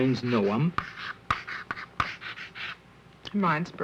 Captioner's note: chalk writing on slate board